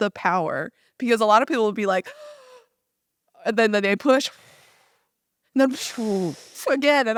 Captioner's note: small gasp